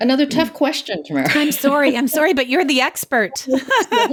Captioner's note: laughs